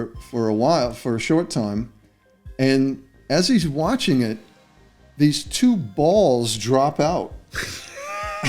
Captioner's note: laughter